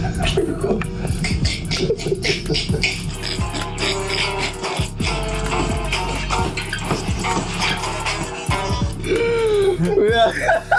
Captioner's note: cackling; laughing